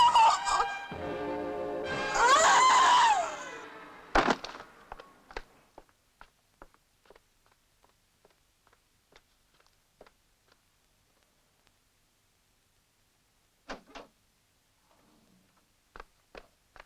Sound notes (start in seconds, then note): 1.9 screaming; 4.1 body thuds